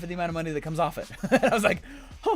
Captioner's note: laughs